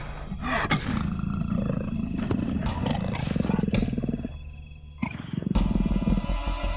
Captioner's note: leopards growling; dramatic music